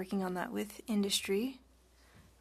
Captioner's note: speaking French